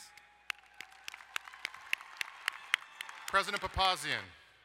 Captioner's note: crowd cheering and applauding